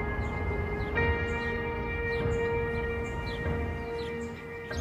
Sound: birds chirping

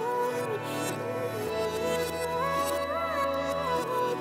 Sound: none

